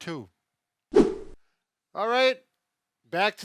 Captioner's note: wooshing sound as scene transitions